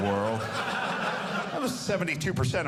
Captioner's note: audience laughing